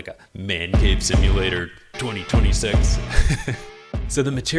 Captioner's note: laugh